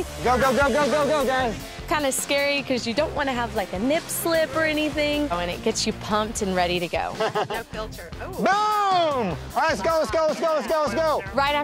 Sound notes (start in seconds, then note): 7.1 laughs